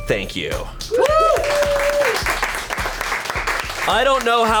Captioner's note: colleagues applauding